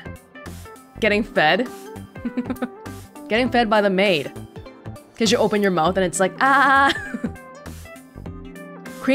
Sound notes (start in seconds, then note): 2.2 chuckles; 6.5 chuckles